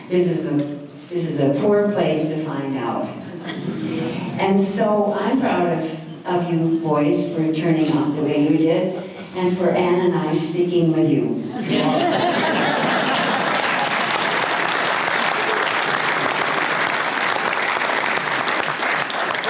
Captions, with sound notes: this is a poor place to find out. [audience laughter] And so, I'm proud of you boys for turning out the way you did and for Ann and I for sticking with you. [audience laughter] [audience applause]